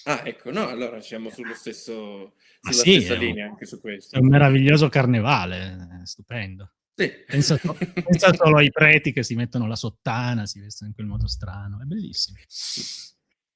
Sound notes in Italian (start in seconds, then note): 7.3 risate